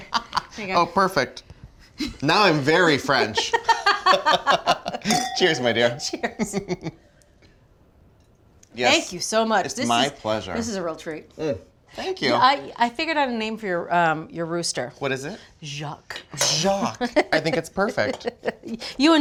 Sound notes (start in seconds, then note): 3.4 both laughing